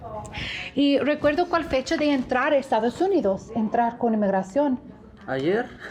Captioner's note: speaking in a foreign language